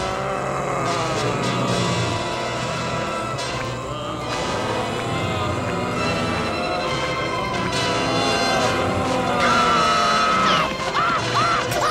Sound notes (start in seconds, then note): 0.0 moaning; 9.4 screaming